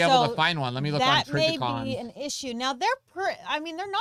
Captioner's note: murmurs